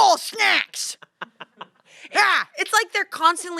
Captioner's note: laughs